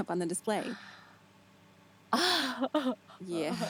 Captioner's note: Stephanie laughing